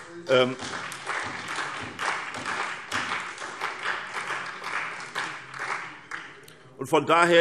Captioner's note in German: Beifall SPD und vereinzelt CDU